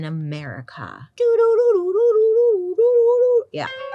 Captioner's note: humming